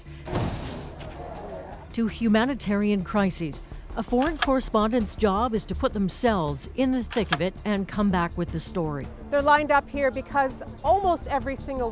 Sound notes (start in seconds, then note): 0.2 thud